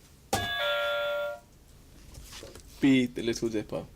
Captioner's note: buzzer